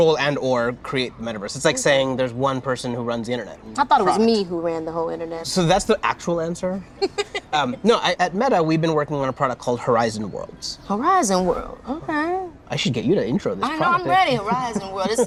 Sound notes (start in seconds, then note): 7.0 laughter